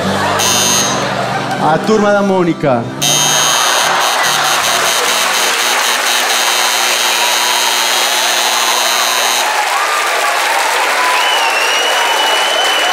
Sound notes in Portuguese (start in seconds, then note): 0.4 campainha; 3.0 campainha; 3.4 aplausos